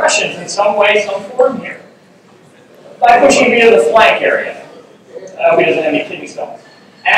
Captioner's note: mumbling